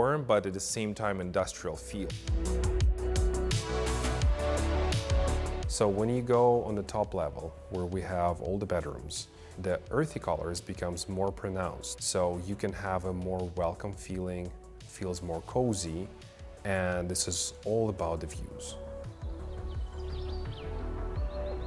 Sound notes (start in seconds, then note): 2.1 upbeat music; 18.3 birds chirping; 19.1 ambient music